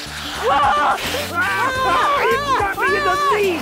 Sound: yelling

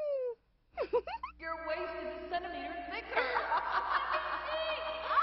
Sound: laughter

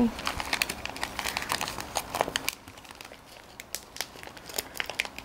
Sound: wrapper crackling

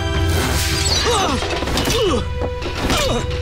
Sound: grunting

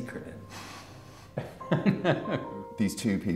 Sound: laughs

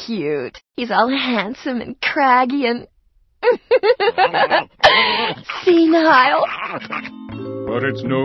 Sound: laughing

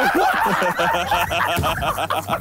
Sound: laughing

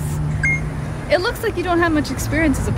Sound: beep

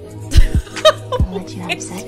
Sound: light laughter

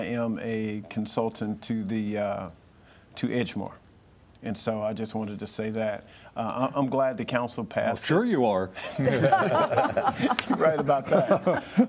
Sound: laughter

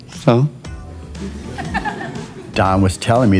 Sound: dancers chuckle

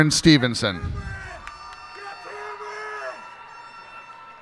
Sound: cheers and applause

